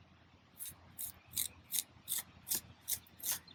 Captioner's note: trowel scraping